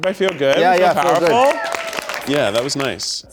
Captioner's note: audience applauds